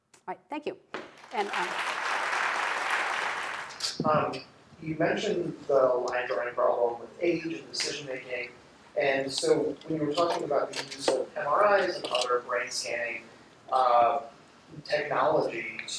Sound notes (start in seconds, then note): 1.1 applause